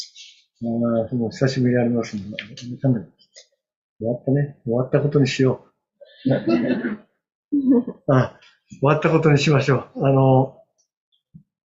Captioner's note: laughter